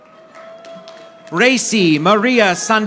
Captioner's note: audience applauding